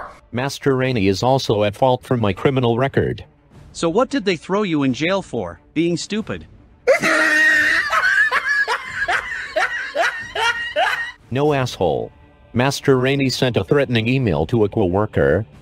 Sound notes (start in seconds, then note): 6.8 laughs